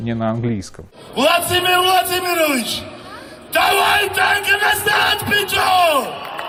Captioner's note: The speaker yells in Georgian addressed to Putin